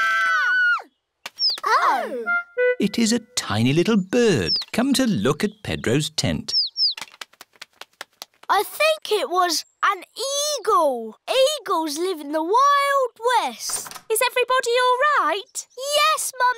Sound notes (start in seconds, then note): 6.1 tweeting